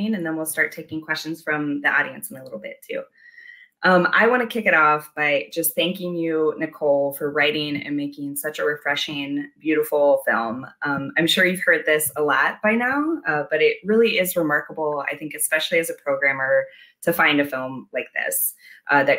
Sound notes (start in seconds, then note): none